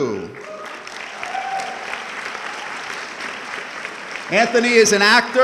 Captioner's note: audience clapping